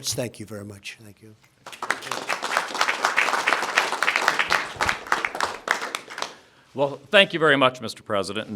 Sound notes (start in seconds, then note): 1.6 applause